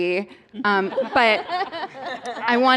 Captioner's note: laughter